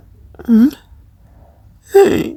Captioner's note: sniffling